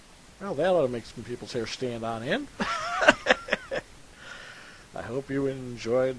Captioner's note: chuckles